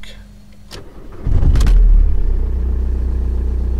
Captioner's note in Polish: Dźwięk silnika